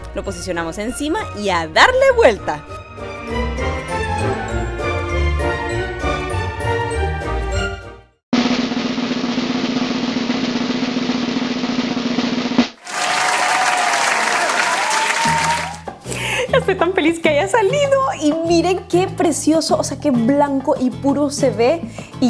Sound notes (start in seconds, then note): 8.2 drumroll and cheering sound effect